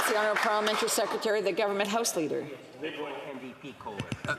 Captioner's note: some applause